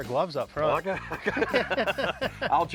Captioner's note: both laugh